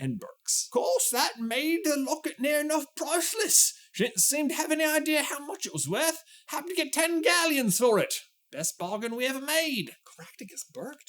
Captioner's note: old man voice